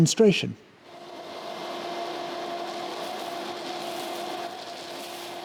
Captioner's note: vacuum whirring